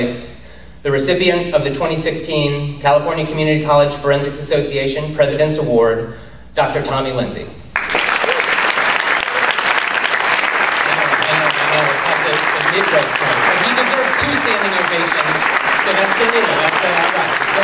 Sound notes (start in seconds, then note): 9.4 applause; 17.4 cheers, applause